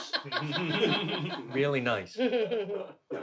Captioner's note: chuckles